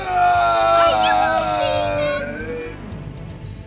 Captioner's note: screaming